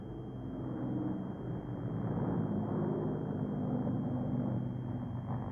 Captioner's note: plane engines rumbling